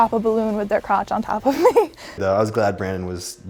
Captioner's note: chuckles